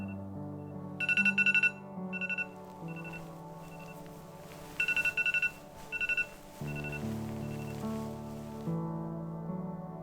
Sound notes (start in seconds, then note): 0.0 clock alarming; 6.4 clock alarming